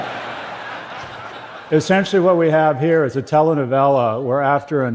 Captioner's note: صدای خنده